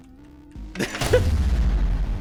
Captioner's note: laughs